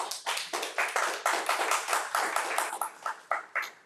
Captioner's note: crowd applauding